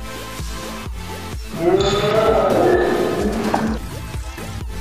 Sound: yells in defeat

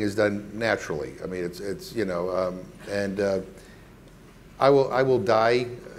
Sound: stammering

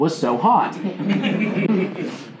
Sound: audience chuckling

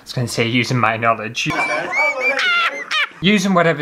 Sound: laughter

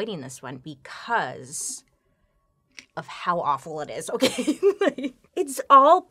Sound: laughs

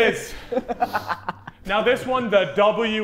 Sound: Sidemen laughing

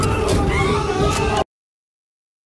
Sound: panic wheeze

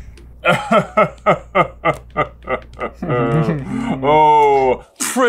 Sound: chuckling

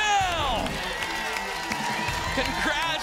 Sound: applause and cheering

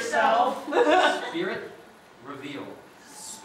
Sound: audience laughter

